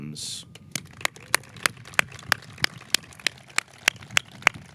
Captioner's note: audience clapping